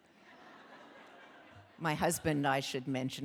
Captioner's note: audience laughing